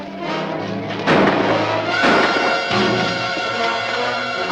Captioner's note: gun firing